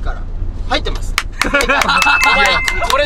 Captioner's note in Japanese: 拍手